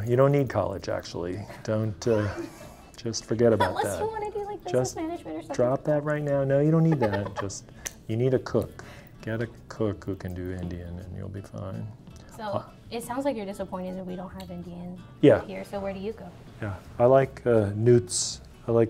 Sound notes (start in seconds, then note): 2.0 chuckling; 6.8 laughing